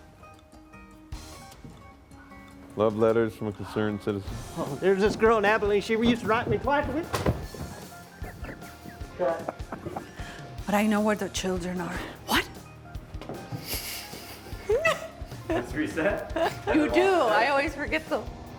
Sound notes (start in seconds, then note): 13.6 laughs